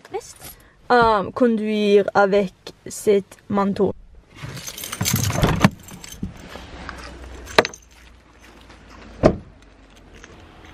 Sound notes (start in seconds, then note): 4.4 keys jingle and door being opened; 8.7 door being closed